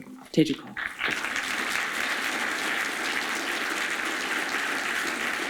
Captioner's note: audience applauding